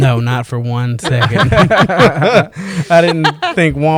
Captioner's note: laughter